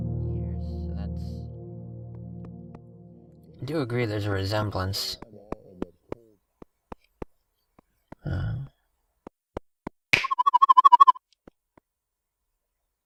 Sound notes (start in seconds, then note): 5.3 chattering sound; 10.2 warbling sound